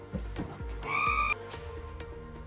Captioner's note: realm-shattering shriek